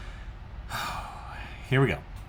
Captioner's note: sighs